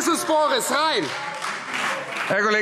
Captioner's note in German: Beifall Freie Demokraten